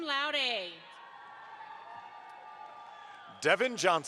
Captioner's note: audience applauds